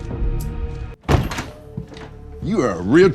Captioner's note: door latch clicking